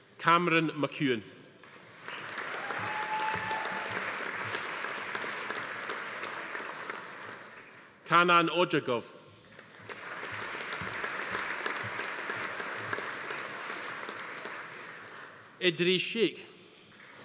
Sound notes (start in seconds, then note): 1.7 audience applauding; 2.3 attendee cheering; 9.5 audience applauding